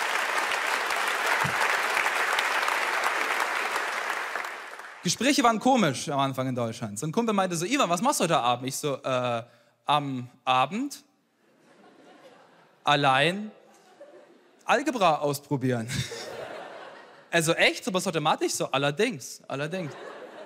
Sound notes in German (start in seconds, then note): 11.4 Gelächter; 16.1 Lachen